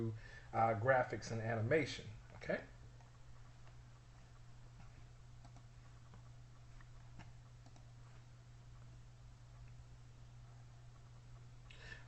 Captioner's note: silence